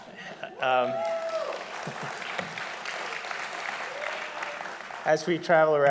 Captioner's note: audience applauding loudly